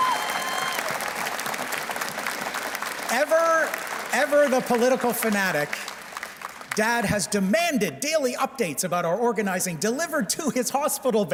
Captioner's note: cheers and Applause